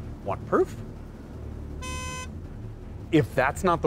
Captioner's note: Supra's pathetic horn honk